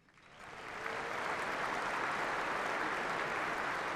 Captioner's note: applause